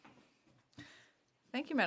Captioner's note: speaking French